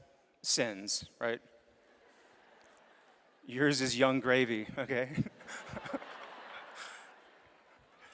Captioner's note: laughter